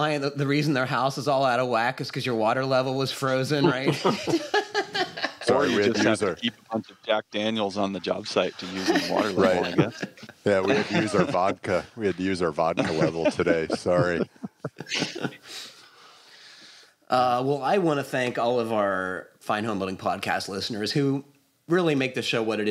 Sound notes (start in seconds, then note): 3.6 laughs